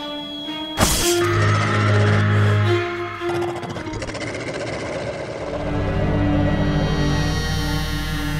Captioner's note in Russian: рык и визг